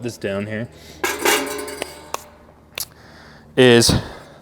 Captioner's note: metal clanking